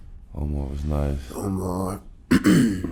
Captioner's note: clears throat